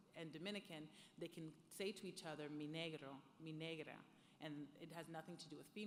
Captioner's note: speaking foreign language